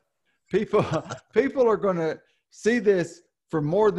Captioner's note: laughs